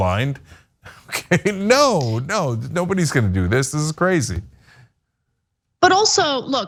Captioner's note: laugh